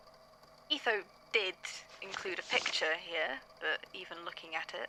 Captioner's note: paper shuffles